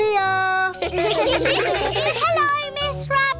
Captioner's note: children giggle